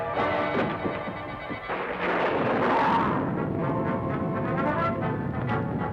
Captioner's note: thunder crashing